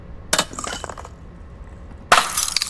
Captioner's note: bottle smashing